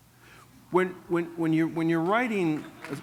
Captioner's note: applause